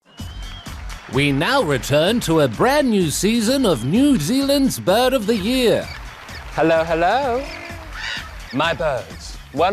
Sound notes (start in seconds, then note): 0.1 cheering and applause; 6.0 birds chirp, twitter